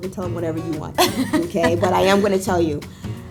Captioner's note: laughing